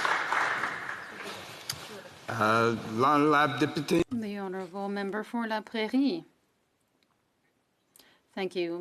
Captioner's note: some Applause